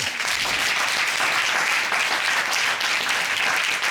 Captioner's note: applause